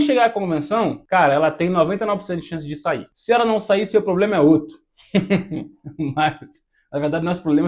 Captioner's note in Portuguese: risadas